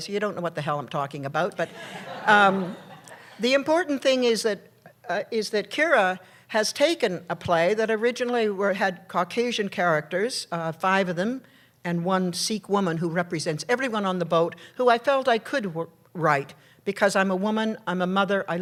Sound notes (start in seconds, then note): 1.6 laughter